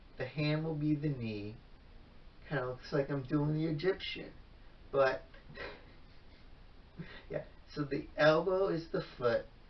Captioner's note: chuckles